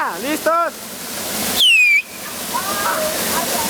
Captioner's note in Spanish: chiflido